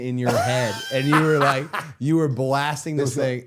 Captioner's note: Matt laughing